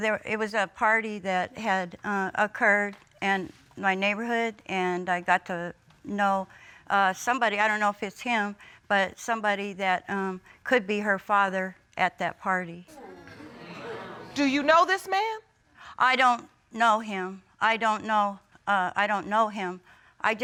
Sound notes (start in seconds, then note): 13.0 audience exclaiming